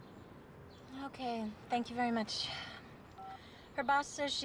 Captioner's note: phone beeps